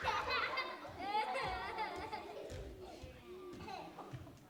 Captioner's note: audience laughing; footsteps echoing